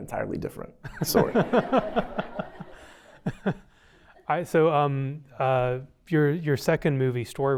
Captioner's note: laughter